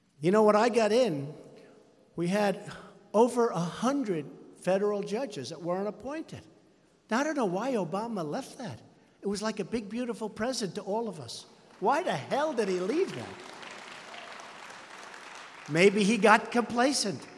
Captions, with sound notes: You know, when I got in, we had over 100 federal judges that weren't appointed. Now, I don't know why Obama left that. It was like a big, beautiful present to all of us. Why the hell did he leave that? (Applause.) Maybe he got complacent.